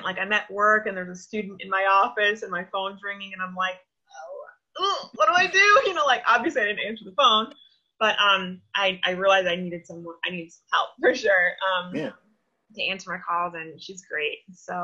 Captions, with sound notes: Like, I'm at work, and there's a student in my office, and my phone's ringing and I'm like, (squeaks) what do I do? Obviously I didn't answer the phone, but I realized I needed some help, for sure, to answer my calls and she's great.